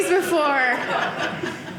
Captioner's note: audience laughing